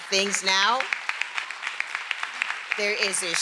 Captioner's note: everyone applauding